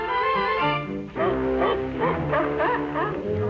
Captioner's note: dogs Barking